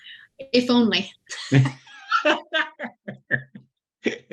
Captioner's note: laughing